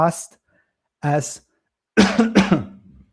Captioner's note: coughs